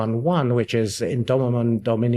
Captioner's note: speaks in Latin